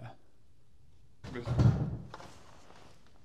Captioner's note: thump